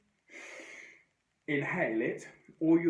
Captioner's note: inhales deeply